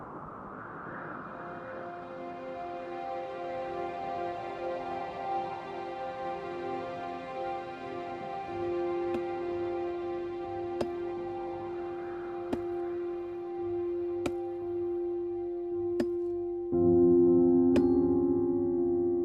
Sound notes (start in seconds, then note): 1.8 gentle orchestral music; 10.9 thudding